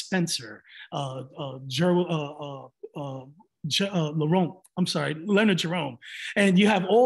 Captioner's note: stutters